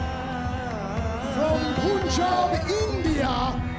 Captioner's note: crowd cheering